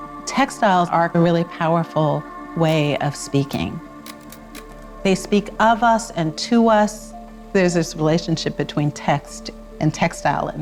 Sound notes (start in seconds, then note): 0.0 gentle music; 4.0 film whirring